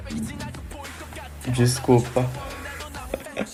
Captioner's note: I burp